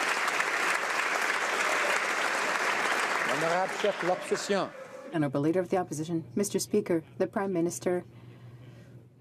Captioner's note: applause